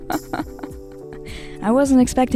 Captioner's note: laughing